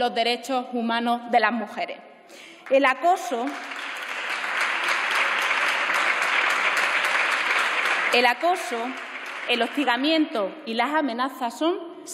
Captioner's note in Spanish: Aplausos